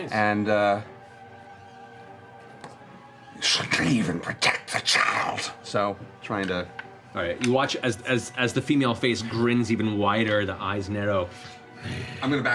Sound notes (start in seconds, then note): 0.8 rasping; 11.7 growls